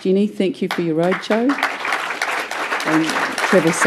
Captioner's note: applause